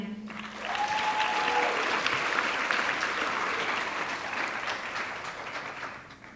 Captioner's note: audience clapping; audience cheering